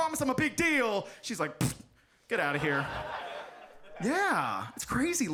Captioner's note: audience laughs